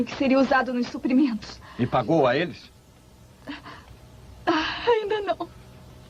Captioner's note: sobs